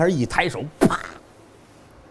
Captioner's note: smack!